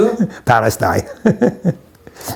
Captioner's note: laughs